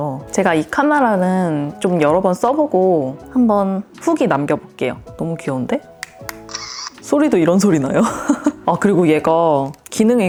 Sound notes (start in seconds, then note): 6.0 click